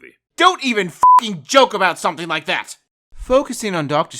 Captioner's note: beep